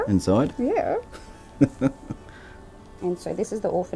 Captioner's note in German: lacht